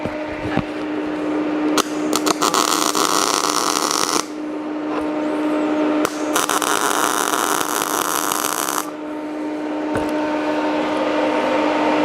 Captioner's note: welding